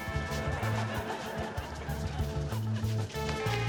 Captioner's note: laughter